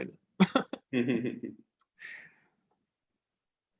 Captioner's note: laughs